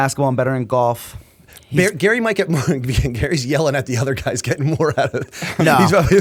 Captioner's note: laughter